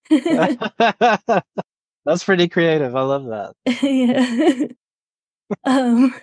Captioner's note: laughs; chuckles